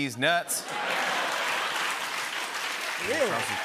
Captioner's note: laughter